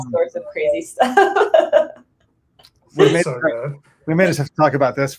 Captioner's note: laughs